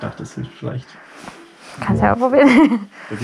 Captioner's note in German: lacht